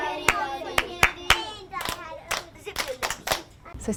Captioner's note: class repeats clapping rhythm; claps rhythmically